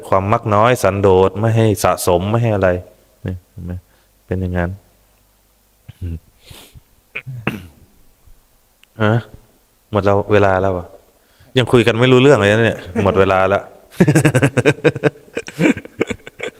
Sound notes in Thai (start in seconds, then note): 6.4 เสียงสูดหายใจ; 14.0 เสียงหัวเราะ